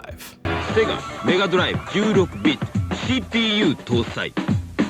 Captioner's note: speaking foreign language